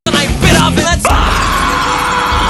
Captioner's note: screams of agony